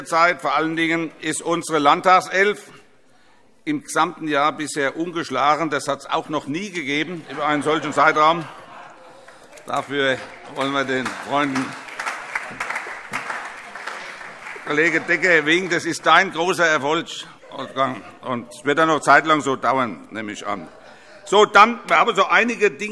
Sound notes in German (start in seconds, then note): 8.7 Heiterkeit und Beifall